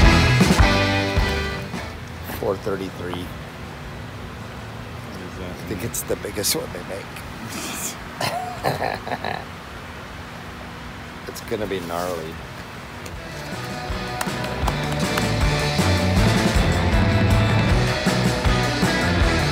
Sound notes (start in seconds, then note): 7.5 chuckles; 13.4 fast rock music